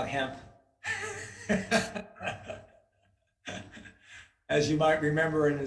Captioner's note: chair laughs